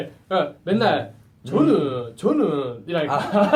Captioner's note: in Busan dialect